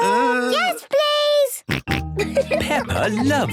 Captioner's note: snorting and giggling